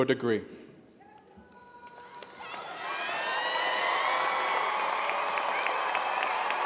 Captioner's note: audience cheers and applause